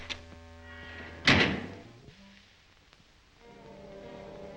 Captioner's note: switch flips; panel slams